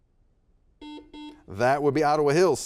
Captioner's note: buzzer beeping